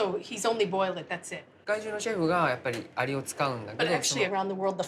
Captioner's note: speaking Japanese